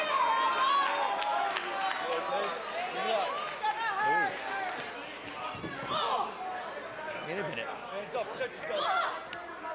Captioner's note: crowd cheering